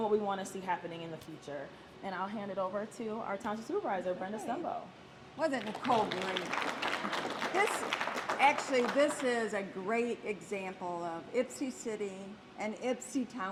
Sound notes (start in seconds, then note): 5.4 applause